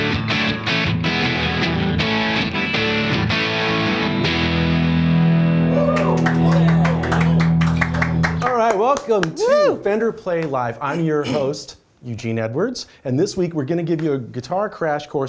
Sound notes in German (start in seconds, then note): 5.8 applaus